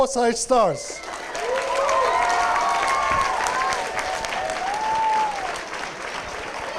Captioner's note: applause, cheers